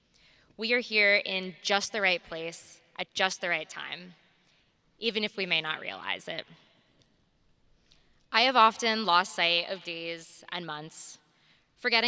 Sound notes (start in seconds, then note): none